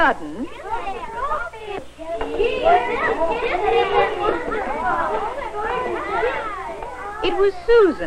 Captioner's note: children clamoring excitedly